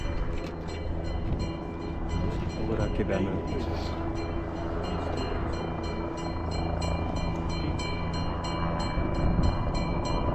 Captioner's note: bells clanging and helicopter flying above